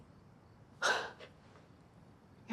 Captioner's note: scoffs